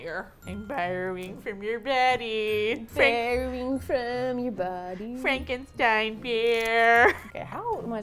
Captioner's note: singsong